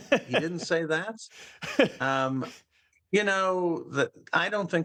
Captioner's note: laughter